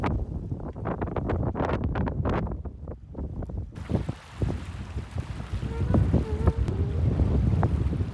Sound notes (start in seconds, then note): 5.4 I can't stop humming